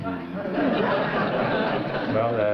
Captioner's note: laughter